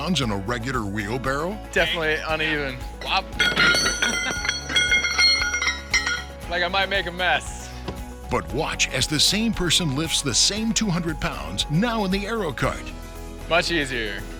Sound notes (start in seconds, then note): 3.4 weight plates clanking; 8.2 voiceover